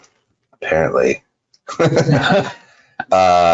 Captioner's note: laughs